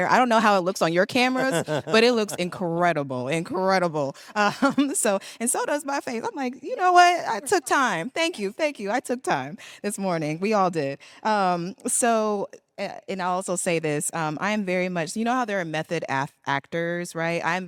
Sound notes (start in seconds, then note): 1.3 man chuckles; 4.4 laughs